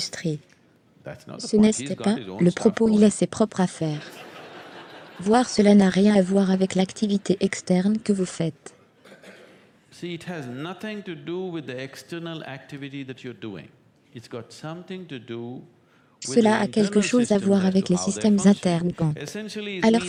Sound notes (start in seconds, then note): 3.9 audience laughs